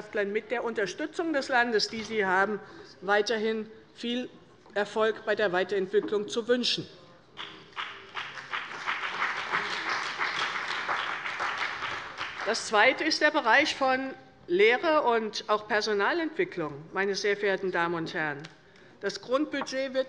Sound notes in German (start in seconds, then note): 7.4 Beifall bei der CDU und dem BÜNDNIS 90/DIE GRÜNEN